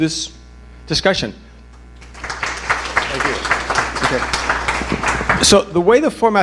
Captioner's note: applause